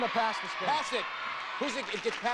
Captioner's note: audience cheering